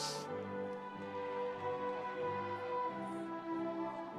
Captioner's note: audience cheering